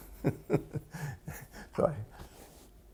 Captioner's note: laughter